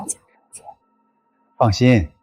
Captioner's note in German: Antwort mit verstellter Stimme